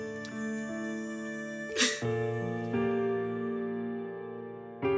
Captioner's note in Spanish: Solloza